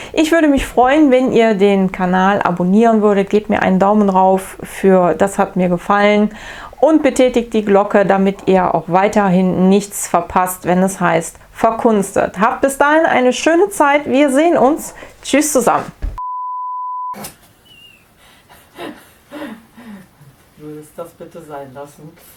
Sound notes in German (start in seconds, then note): 18.2 lacht